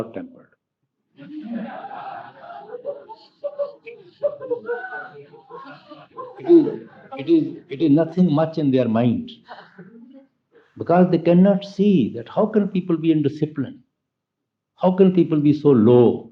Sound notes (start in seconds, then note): 5.5 laughter